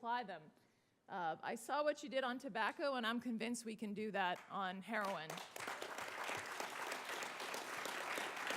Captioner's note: applause